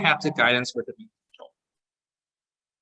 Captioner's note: audio distortion